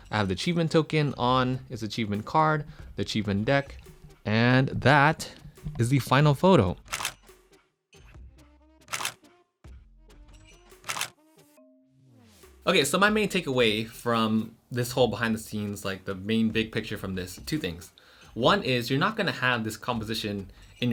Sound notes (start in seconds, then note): 7.1 camera clicks